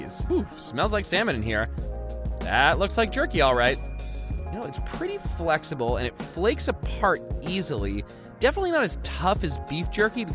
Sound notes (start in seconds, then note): 3.4 bell dings